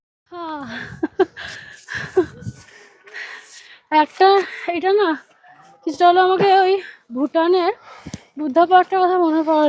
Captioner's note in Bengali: সশব্দ হাসি